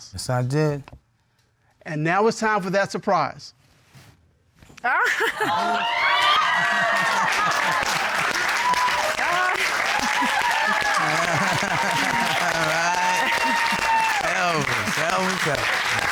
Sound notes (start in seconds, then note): 4.8 cheers and applause; 9.9 laughter; 12.3 laughs